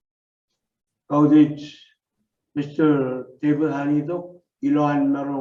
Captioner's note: speaks foreign language